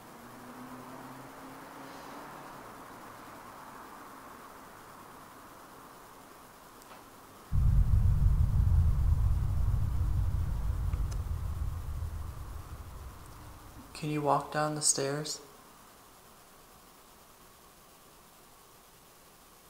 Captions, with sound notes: [TAP] Can you walk down the stairs?